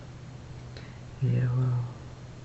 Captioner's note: foregin language